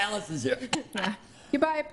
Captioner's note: laughs